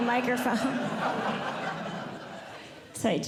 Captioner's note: audience Laughing